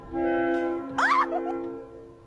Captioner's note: clipped scream